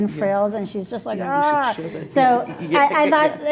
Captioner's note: grunting